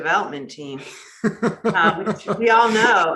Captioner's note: laughing